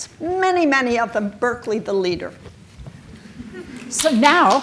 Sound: audience claps and chuckle

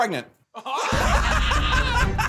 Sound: laughing

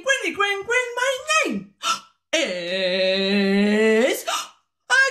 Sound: gasp

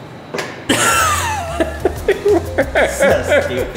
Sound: laughs

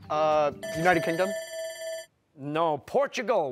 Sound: bell rings

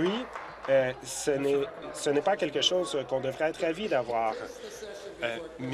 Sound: applause

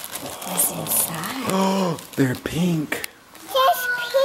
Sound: gasps

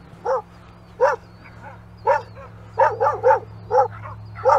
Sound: dog barking continues

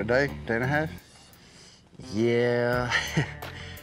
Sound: chuckles

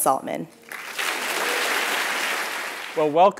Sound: applause

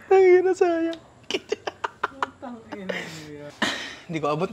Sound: laughs

